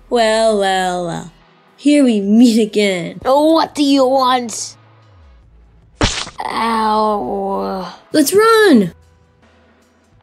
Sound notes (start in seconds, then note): 6.0 splat